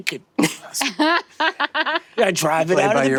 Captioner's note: laughing